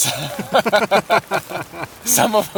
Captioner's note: both laugh